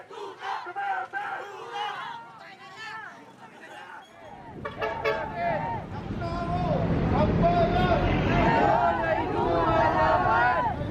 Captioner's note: chant chant